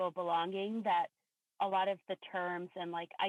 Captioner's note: none